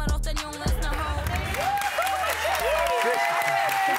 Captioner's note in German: Jubel